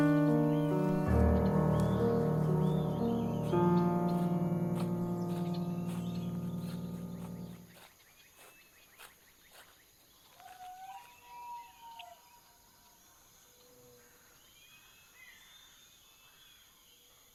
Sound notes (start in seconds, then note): 10.4 owl calling